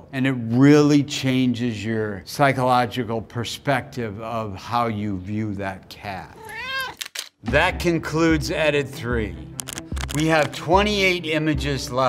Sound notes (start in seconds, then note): 6.3 cat meows; 6.9 camera shutter clicking; 9.6 counter ticking